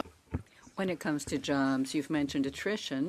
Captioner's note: speaking in French